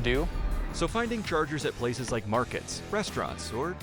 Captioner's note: voiceover